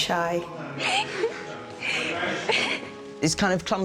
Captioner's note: giggling